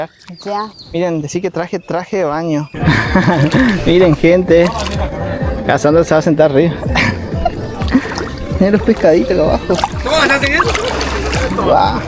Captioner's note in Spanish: risas